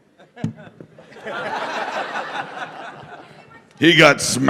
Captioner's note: laughter